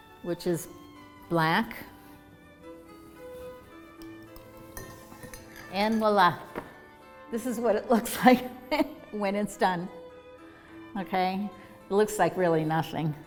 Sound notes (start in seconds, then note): 8.4 chuckles